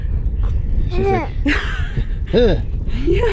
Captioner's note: exclaims